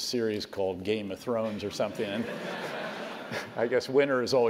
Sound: laugh

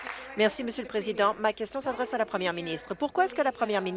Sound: applause

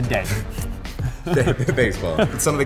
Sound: laughing

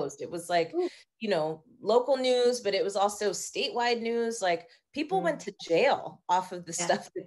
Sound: none

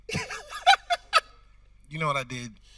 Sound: host laughing

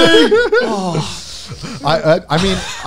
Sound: exhales loudly

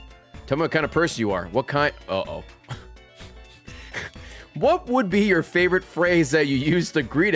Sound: laughs

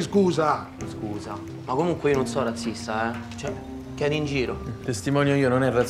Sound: in Roman dialect

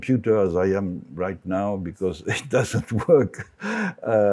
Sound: laughs

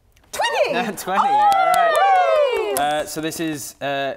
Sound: cheering

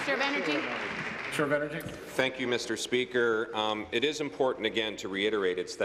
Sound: applause

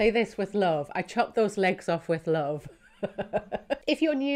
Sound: laughs

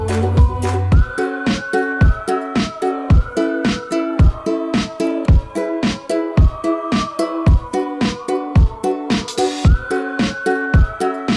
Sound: whistling

